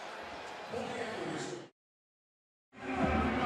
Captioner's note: pa announcement